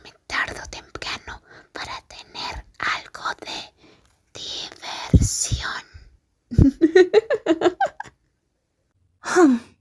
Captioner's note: laughter